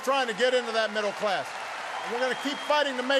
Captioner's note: applause